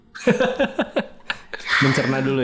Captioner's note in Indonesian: tertawa